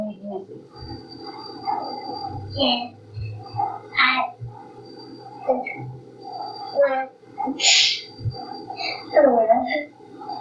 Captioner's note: stammers